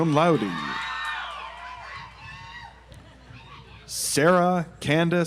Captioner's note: audience applauds